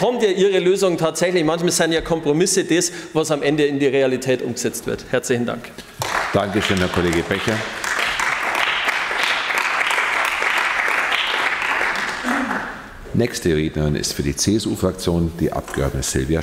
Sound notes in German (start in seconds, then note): 5.9 Beifall bei den GRÜNEN